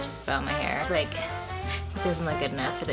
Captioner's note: scoffs